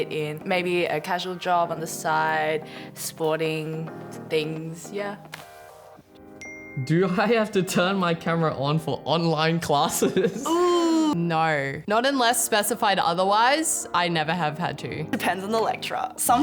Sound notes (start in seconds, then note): 6.0 phone pings